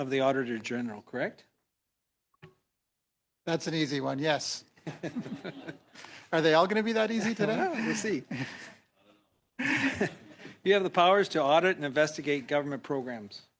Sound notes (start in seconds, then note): 9.6 laughter